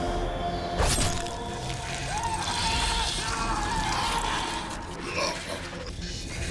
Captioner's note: dramatic music; screaming